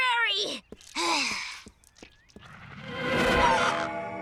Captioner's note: sighing